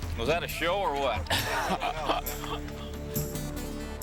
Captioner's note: laughing; tense music